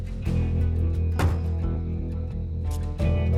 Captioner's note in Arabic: يغلق باب السيارة